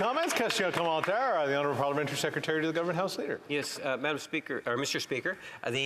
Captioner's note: applause